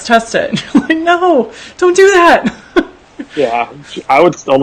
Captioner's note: laughs